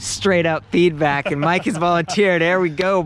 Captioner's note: laughs